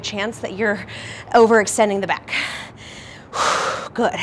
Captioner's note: exhales loudly